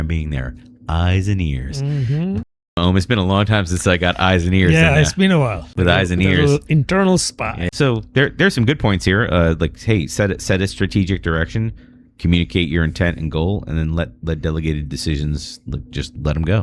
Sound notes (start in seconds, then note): 4.7 uh; 9.4 uh